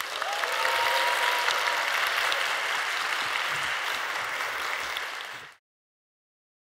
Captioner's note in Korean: 박수소리